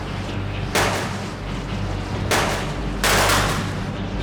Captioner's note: loud bangs